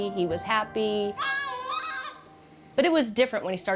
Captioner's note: cooing